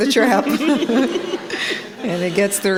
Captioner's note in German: Gelächter